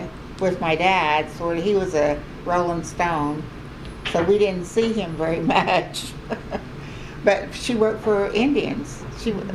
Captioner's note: laughs